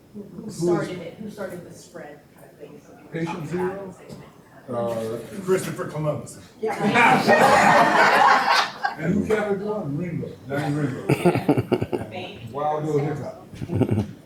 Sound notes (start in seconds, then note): 6.8 audience members chattering; 7.1 audience laughing